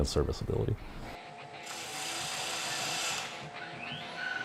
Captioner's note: machine hum